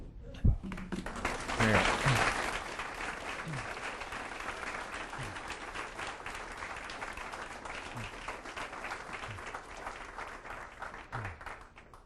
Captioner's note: applause